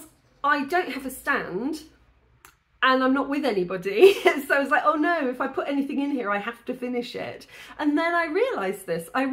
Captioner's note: laughing